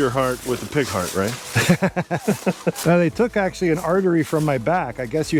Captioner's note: laughter